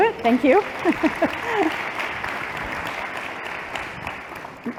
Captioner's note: applause